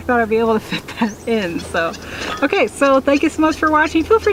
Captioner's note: laughing